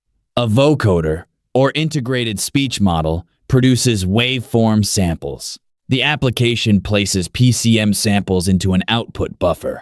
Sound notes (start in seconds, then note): 1.2 vocoder